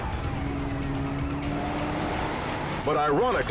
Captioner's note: cars racing